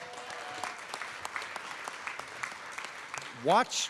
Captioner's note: applause